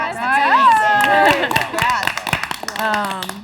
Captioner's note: all applaud